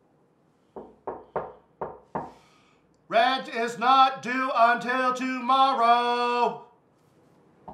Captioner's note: knock at door; more knocking at door